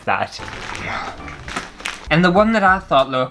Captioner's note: plastic Rustling